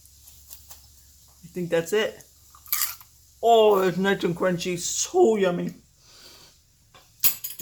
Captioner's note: food crunch